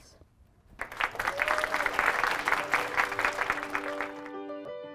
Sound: students cheering; piano music

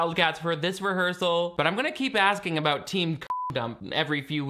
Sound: beep

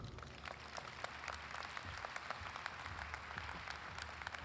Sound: audience applauding

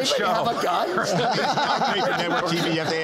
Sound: laughter

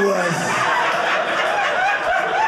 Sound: audience laughing

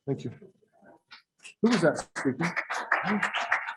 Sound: scattered applause

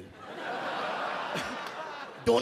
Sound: audience laugh

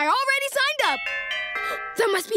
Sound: doorbell ringing

